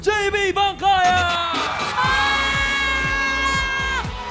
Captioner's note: theme music playing; melai screaming